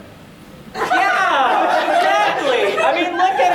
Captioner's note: audience laughter